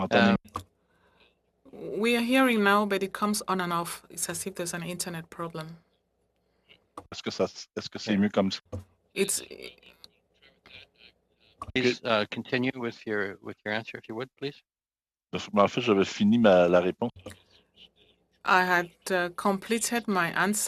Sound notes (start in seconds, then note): 3.9 speaking French